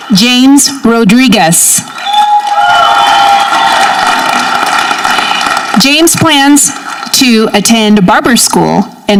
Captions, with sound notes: James Rodriguez. (audience cheering) James plans to attend barber school